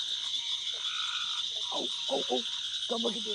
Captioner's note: wildlife sounds continues